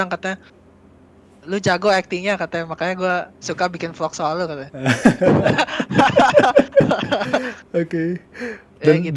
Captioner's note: laugh